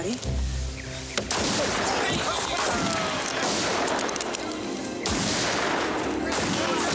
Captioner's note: guns firing; men yelling